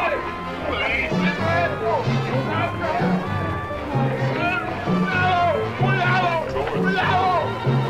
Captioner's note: General Tostada speaking in Spanish